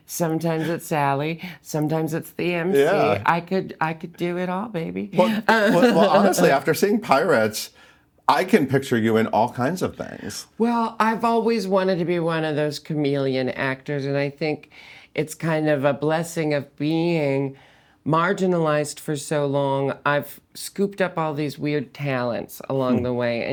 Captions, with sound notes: sometimes it's Sally, sometimes it's the Emcee. - Yeah. - I could do it all, baby. (laughing) - Well honestly, after seeing "Pirates", I can picture you in all kinds of things. - Well, I've always wanted to be one of those chameleon actors, and I think it's kind of a blessing of being marginalized for so long, I've scooped up all these weird talents along the way,